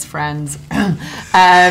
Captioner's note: ahem